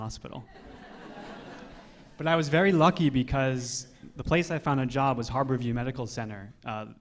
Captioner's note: laughter